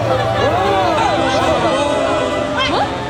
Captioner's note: crowd goes WHOA